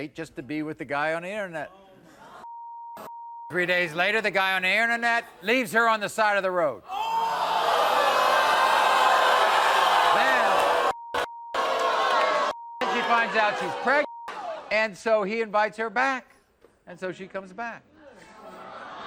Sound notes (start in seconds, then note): 6.9 audience screaming